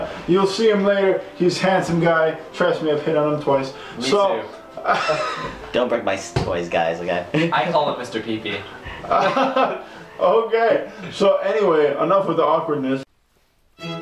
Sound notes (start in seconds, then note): 4.8 laughing; 8.5 laughing; 13.8 classical music